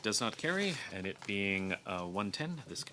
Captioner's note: speaking French